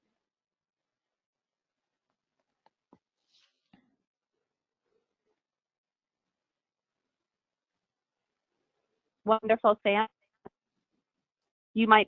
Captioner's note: break in audio